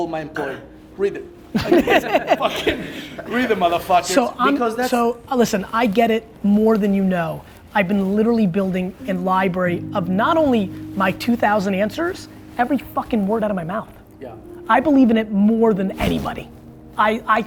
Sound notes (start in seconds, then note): 1.5 laughter